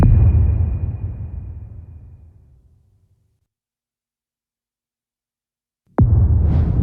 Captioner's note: dramatic sound